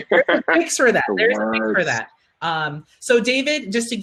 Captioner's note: panel laughing